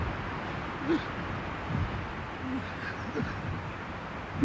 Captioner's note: breathing heavily